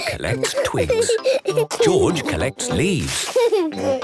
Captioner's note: giggling; laughing; kids giggling